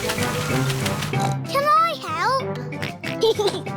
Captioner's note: oinks; oinks and giggles